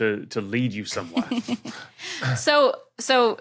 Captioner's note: snickers